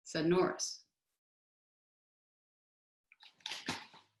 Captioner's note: silence